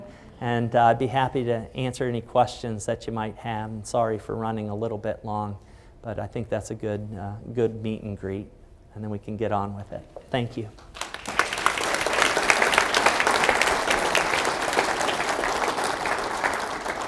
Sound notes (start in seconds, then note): 10.7 applause